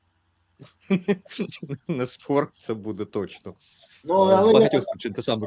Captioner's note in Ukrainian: сміх